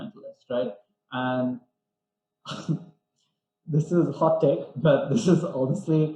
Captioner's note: laughs